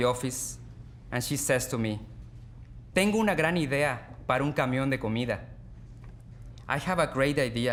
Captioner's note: speaking Spanish